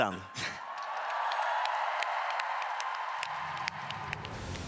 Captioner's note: applause